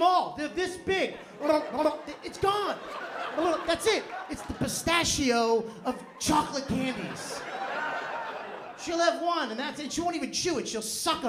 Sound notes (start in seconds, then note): 3.0 laughter